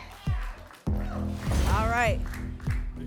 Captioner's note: applause and cheering; whoosh; thump